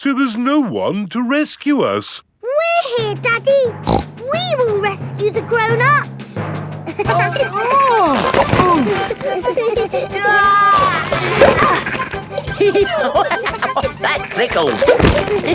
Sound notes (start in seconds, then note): 3.8 snorts; 7.2 giggling; 7.9 grunting; 10.1 giggling; 12.8 laughing